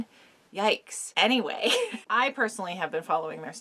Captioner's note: wheezy laugh